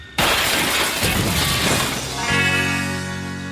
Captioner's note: crashing